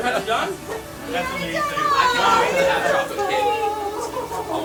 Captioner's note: group cheering